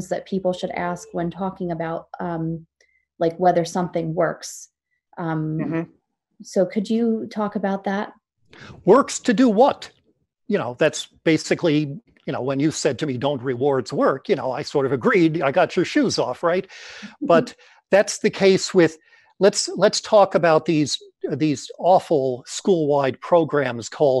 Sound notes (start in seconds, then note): 17.1 laughs